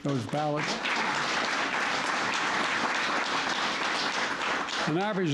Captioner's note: applause